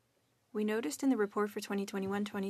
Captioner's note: speaking French